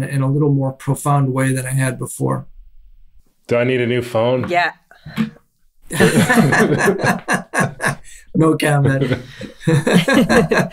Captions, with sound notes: in a little more profound way than I had before. - Do I need a new phone? - Yeah. (group laughs) - No comment.